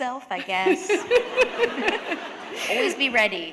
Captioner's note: laughter